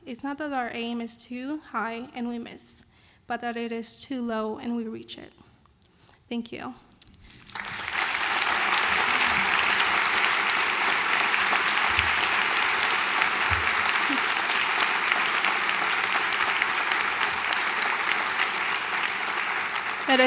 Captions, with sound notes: is not that our aim is too high and we miss, but that it is too low and we reach it. Thank you. [APPLAUSE]